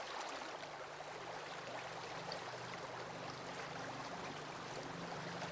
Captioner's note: water sounds